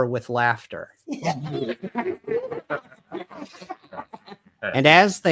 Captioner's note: laughing